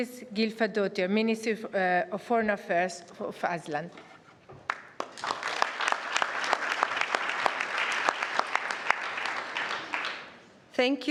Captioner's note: applause